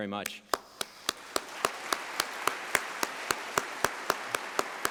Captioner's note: applause